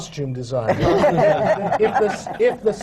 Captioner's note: laughter